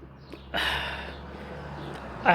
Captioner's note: sigh